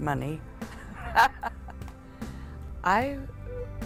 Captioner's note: laughs